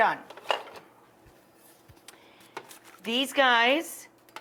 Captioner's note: utensils scraping